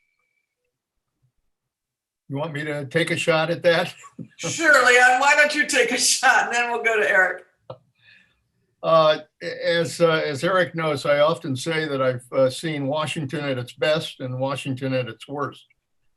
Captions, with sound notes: - You want me to take a shot at that? (laughs) - Surely, why don't you take a shot, and then we'll go to Eric? - As Eric knows, I often say that I've seen Washington at its best and Washington at its worst.